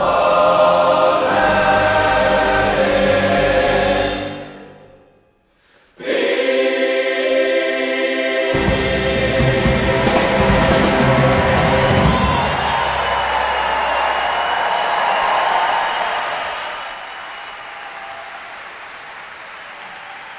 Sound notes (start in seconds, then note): 12.4 cheering and applause